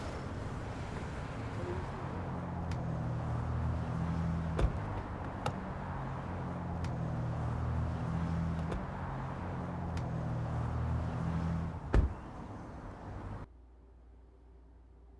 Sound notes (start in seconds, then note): 0.2 engine humming stops; 4.6 door thuds; 11.9 door thuds